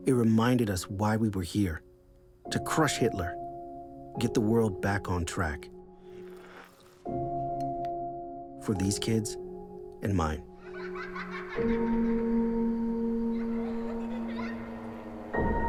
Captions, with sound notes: It reminded us why we were here, to crush Hitler, get the world back on track. For these kids and mine. (children laughing)